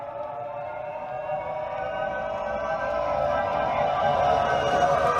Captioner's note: motor engine whining